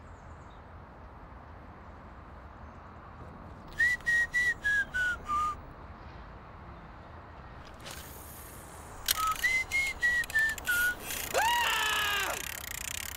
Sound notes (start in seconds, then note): 3.7 whistles tune; 11.2 man screams